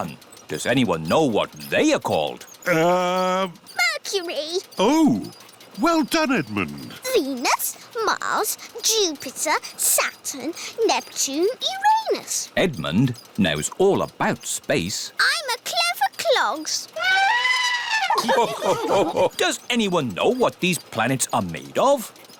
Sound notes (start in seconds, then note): 17.0 trumpets; 17.1 all laugh